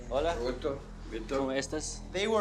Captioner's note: speaking foreign language